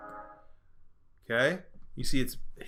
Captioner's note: music stops